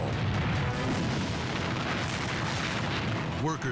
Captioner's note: explosion booming